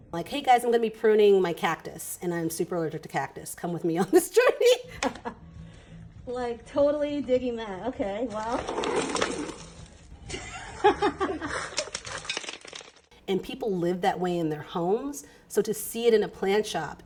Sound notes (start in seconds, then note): 4.3 laughs; 8.3 pot scraping; 10.3 laughing